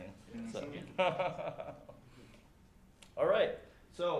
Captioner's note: chuckles